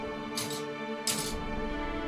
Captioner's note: metal clicking sound